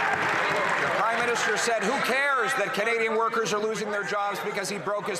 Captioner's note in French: voix de l'interprète